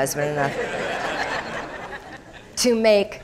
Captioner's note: crowd laughing